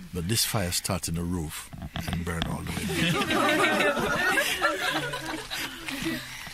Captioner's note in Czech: smích